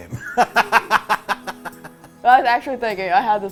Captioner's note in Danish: begge griner